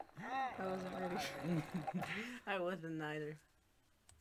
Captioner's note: laughs